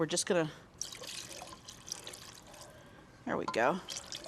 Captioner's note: broth trickling